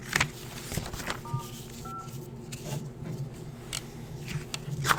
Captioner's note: phone beeps